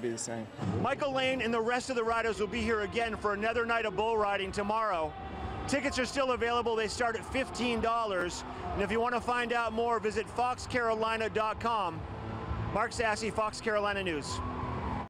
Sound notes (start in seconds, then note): 13.5 nats of applause and cheering fans